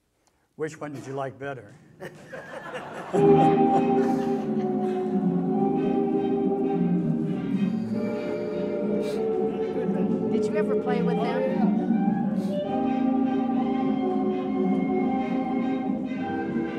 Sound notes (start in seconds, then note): 2.0 laughter; 2.7 music playing-- no dialogue